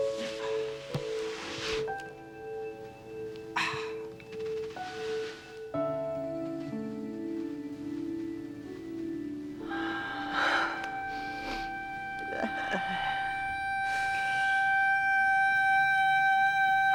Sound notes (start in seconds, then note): 3.5 sighs; 9.6 breathes raggedly